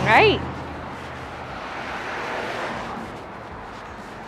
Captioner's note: cars buzzing